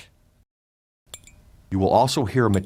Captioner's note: metallic ping